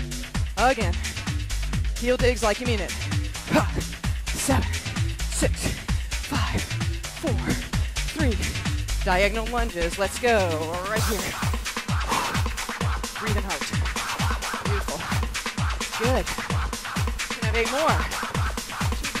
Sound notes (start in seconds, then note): 11.8 exhales